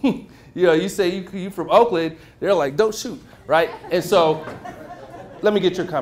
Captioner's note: laughter